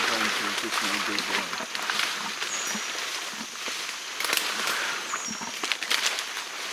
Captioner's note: shuffling of leaves drowns out speaker